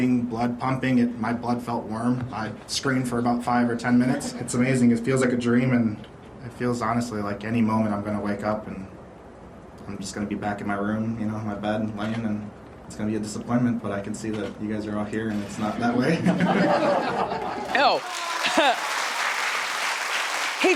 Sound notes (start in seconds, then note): 16.3 laughs; 17.3 audience clapping